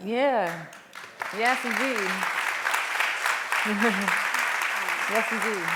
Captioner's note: applause